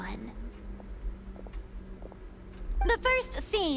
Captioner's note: footsteps